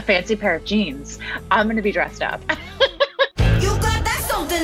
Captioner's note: laughing